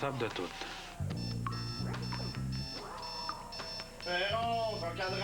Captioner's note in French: Sonnerie du réveil-matin